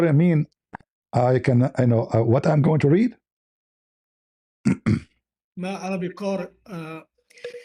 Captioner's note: cough and clears throat